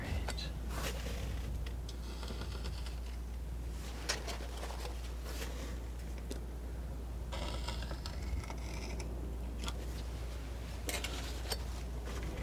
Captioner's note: scratching